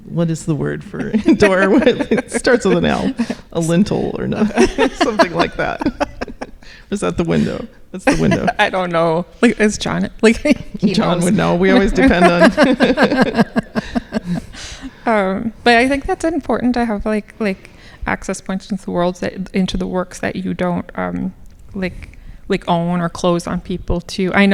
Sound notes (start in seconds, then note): 4.4 laughing; 12.7 laughing